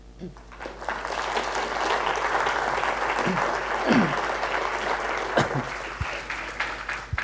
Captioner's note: applause